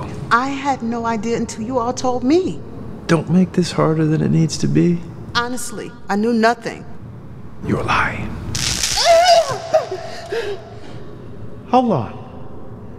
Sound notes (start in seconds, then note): 8.4 electrical zapping; 8.7 Mom shrieking